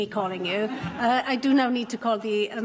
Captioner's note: laughter